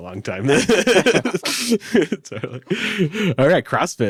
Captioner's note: all laugh